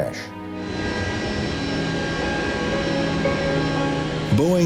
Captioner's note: airplane engines whirring